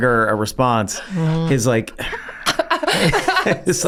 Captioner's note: groans; gang laughs